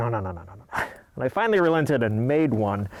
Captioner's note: laughing